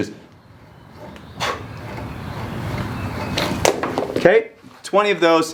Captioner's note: exhales sharply